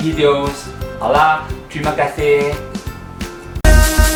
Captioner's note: Mandarin